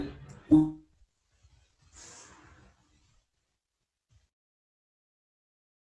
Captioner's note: interruption in audio